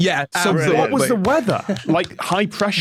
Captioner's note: applauds